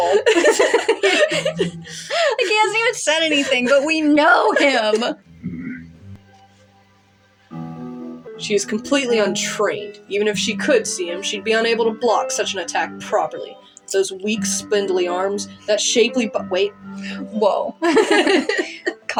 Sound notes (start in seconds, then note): 0.0 both Laugh; 5.0 Jæmis Groans; 17.8 both Laugh